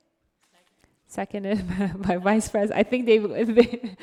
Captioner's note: laughs